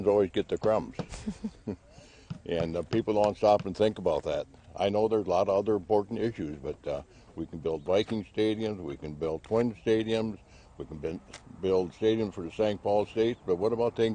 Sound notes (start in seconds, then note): 1.1 laughs